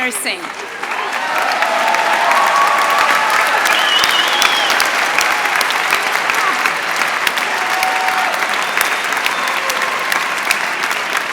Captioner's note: applause